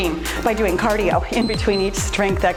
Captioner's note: timer beeps